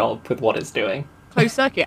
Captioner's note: laughing; laughs